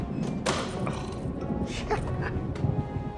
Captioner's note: laughs